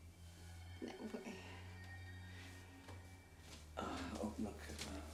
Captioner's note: Betty stammers confusedly